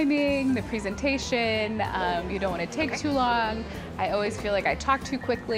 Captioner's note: chuckles